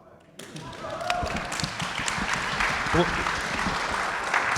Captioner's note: audience applauding